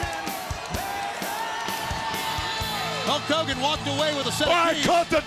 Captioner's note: crowd cheering